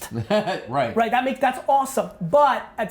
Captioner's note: Brian laughs